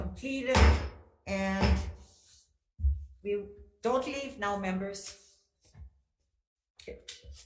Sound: gavel banging; gavel banging

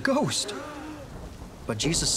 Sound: thunder crashing; disciples gasping

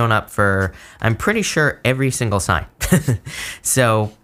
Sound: chuckles

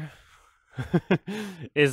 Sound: chuckles

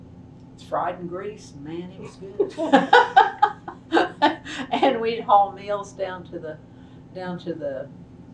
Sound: laughs

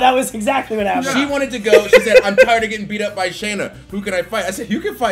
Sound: laugh

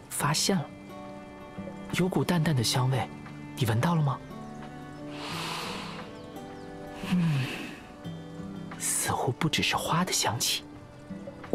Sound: sniffs

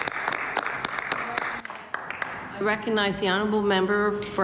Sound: some Applause

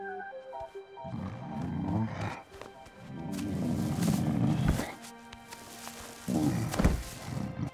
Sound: grunting

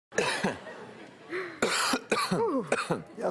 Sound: coughing

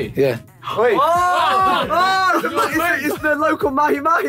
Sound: yelling

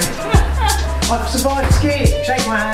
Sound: laughs

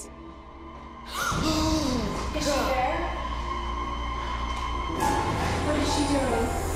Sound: gasping

